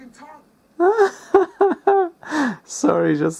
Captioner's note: laughs irritatingly